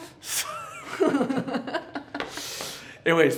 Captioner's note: laugh